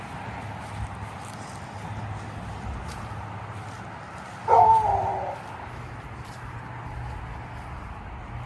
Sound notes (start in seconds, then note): 4.4 howling